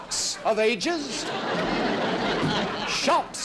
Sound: audience laughing

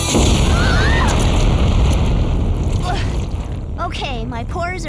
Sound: explosion

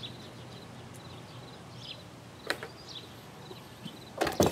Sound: bird chirping

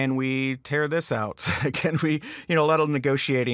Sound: chuckles

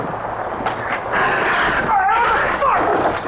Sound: shouts

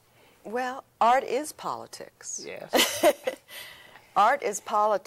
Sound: laughs

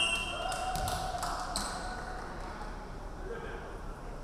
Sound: referee whistling

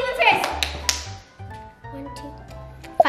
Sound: claps

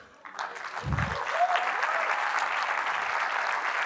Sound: applause

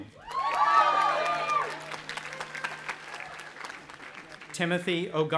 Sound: audience applauding and cheering

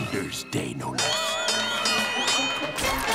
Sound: dinging

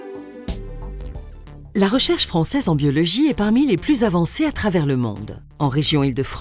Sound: voice-over

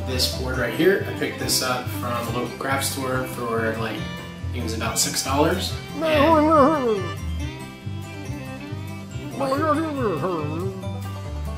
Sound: mumbles

